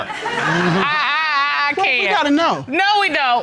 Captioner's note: stammers